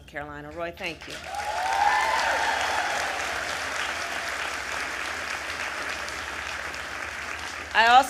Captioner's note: applause